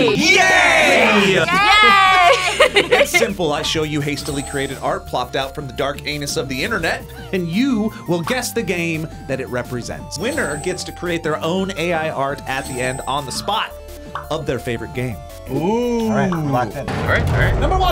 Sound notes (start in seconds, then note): 2.7 laughs; 13.6 gasps